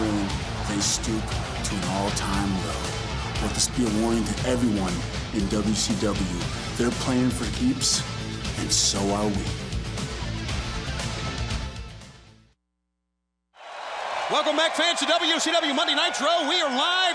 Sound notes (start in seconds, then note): 9.0 crowd cheering